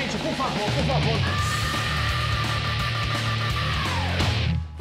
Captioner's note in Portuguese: mulheres gritam